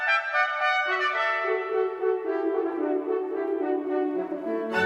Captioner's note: none